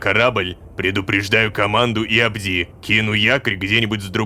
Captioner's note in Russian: шепотом